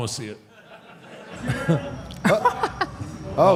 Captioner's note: audience laughs